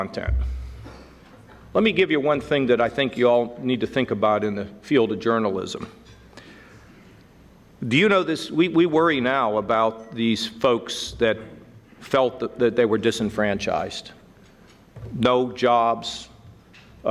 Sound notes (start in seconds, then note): none